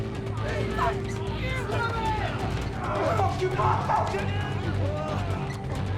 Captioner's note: residents shouting